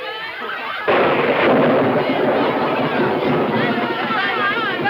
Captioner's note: thunder claps